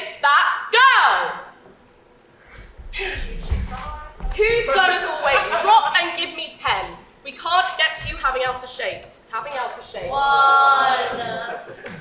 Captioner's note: Violet is out of breath